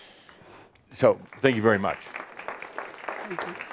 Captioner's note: audience applause